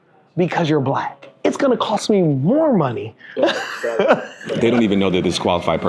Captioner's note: laughing